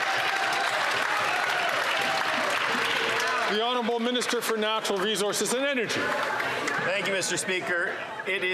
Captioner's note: some Applause